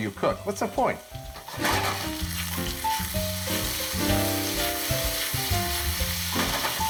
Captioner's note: lighthearted piano music; oil sizzling